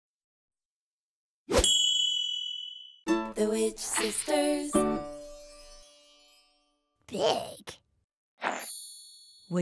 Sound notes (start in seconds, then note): 0.3 swishes; 1.6 chimes